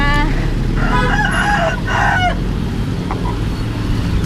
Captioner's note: rooster crowing